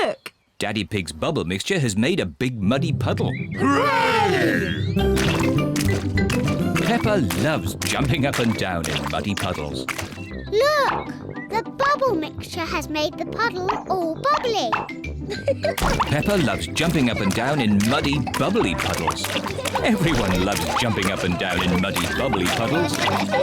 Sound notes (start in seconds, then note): 14.7 laughs